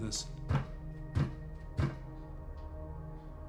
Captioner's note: foot thumps three times